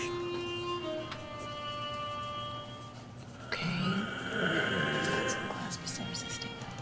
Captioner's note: whispers